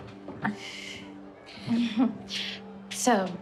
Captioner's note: chuckling